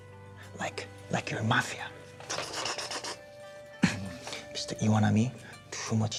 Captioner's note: imitates guns firing